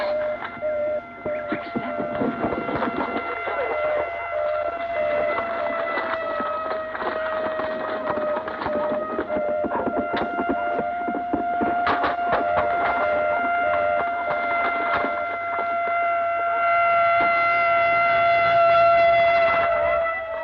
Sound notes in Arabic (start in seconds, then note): 0.2 صوت صفارة الإسعاف; 12.4 صوت صفارة الإسعاف; 12.4 صوت صفارة الإنذار